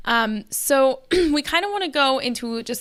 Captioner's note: clears throat